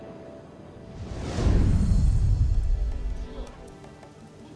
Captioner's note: heavy swooshing; gentle Latin music